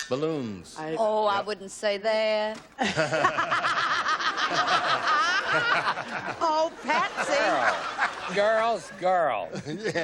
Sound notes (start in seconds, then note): 2.7 laughter